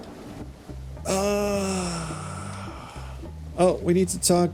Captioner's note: long sigh